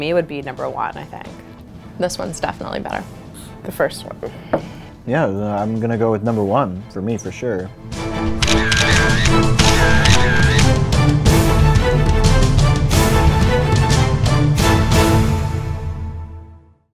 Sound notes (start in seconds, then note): 8.3 camera clicking